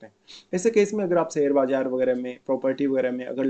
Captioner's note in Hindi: नाक से की जाने वाली आवाज़